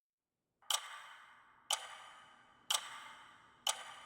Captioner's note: clock ticking